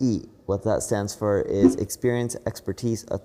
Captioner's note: graphics whooshing